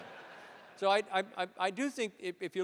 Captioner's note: laughter